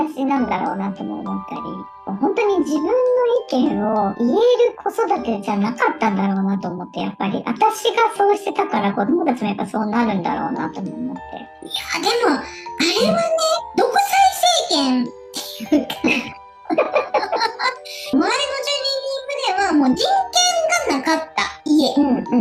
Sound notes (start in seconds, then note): 16.6 laughs